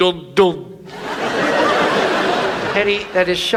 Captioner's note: audience laughs